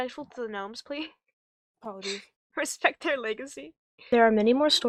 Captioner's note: laughs